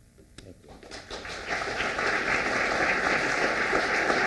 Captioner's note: applause